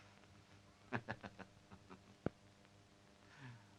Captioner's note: laughs